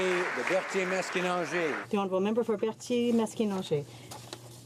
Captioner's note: some Applause